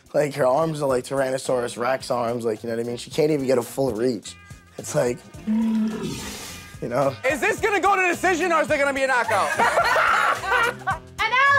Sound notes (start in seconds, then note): 5.3 animal growl; 9.2 laughter